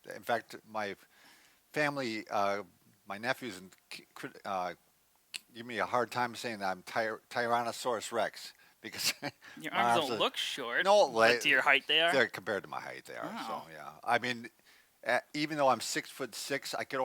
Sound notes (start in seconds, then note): 9.7 laughs